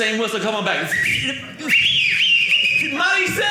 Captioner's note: whistling